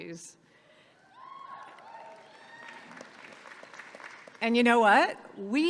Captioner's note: audience cheers and applauds